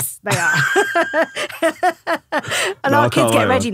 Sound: laughing

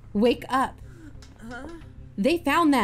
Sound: sleepy, snoring

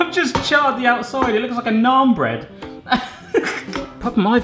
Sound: laughs

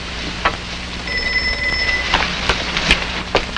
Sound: telephone rings

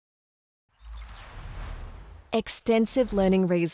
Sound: screen whooshing

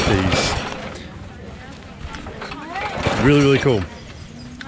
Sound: machine rattling

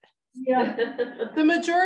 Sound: laughs

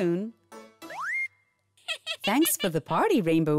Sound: giggles

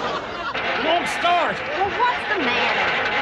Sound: engine sputters

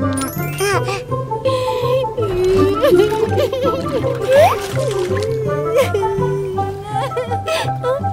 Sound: crying

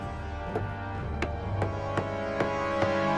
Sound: hammer banging

